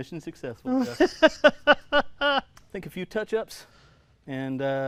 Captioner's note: laughing